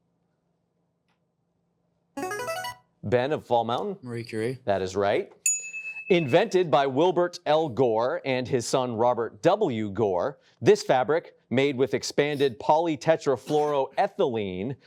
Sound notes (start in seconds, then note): 2.2 buzzer chimes; 5.5 chiming